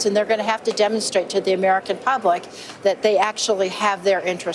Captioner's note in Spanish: none